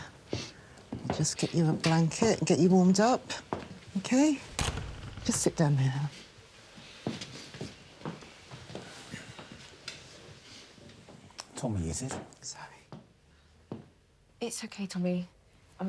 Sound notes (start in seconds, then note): 4.4 door clicking shut